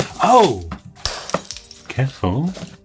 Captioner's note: glass breaking